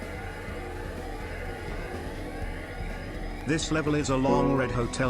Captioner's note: alarm sounding; jazz music